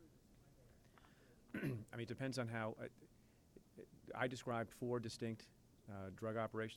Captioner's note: clears throat